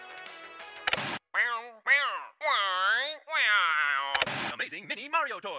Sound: Shy Guy sounds

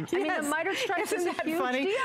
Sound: laughter

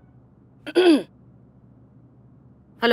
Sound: clears throat

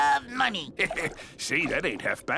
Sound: laughing

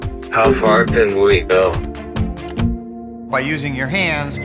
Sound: electronic Voice

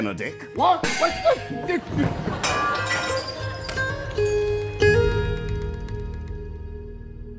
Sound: muffled yells, glass breaking

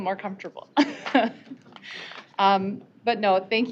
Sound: laughing

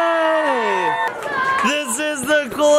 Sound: crowd cheering

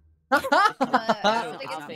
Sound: laughs

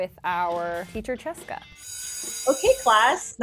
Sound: bell ringing

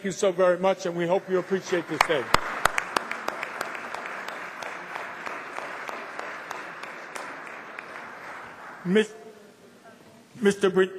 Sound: applause

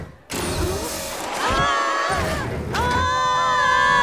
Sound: screaming

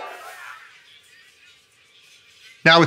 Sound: chatter softens

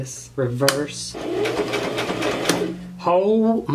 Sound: sewing machine

